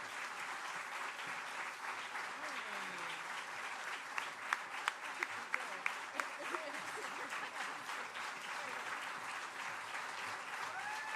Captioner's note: applause